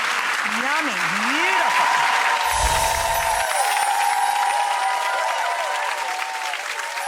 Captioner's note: audience applauding; audience cheering